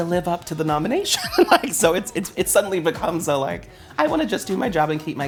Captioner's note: laughs